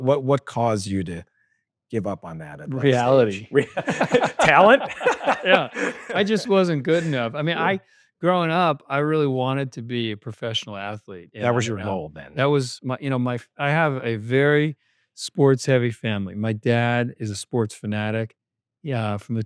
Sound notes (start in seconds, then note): 3.0 both laughing